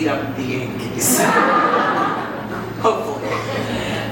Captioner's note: audience laughs